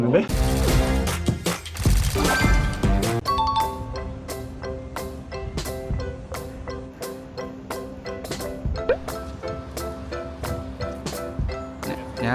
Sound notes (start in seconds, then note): 0.3 cheerful music; 3.2 bell sound; 5.3 energetic music